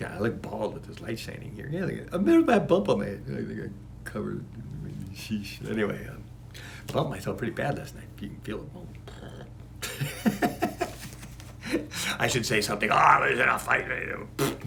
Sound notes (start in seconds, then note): 9.8 laughing